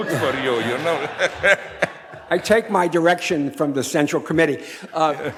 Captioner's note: audience laughs